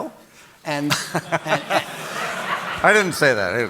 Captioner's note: audience laughing